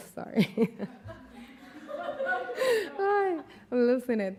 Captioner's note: laughing